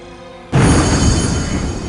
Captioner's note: kaboom